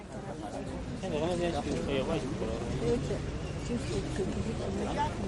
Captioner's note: people chattering indistinctly